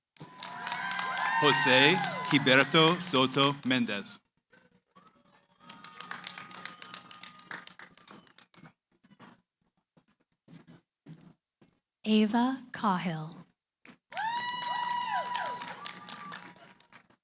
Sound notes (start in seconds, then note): 5.5 cheering, applause; 14.1 cheering